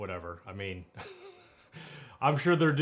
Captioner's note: laughing